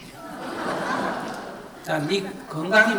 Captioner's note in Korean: 청중 웃음